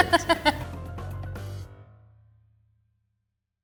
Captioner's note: Jessie laughing